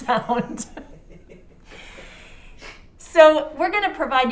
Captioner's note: laughing